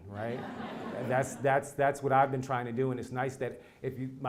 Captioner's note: laugh